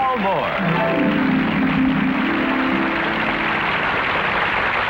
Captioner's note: audience clapping